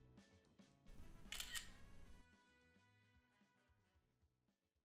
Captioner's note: camera shutters